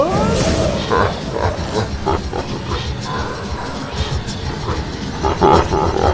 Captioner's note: ominous Laughter